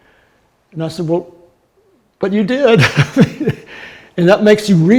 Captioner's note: laughing